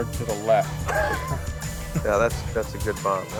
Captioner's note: l lauaughghs s